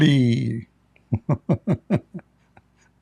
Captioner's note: Ketawa